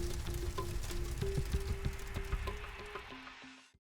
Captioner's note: dramatic music; fire crackling